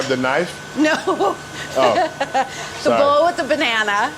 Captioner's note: laughs